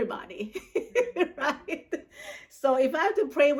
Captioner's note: laughs